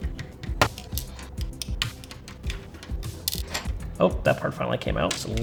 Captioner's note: controller parts snapping together